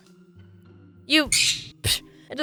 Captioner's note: screaming,exe